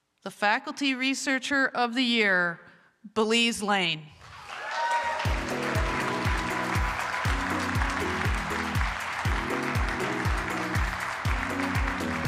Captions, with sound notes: The faculty researcher of the year, Belize Lane. [APPLAUSE,MUSIC PLAYING]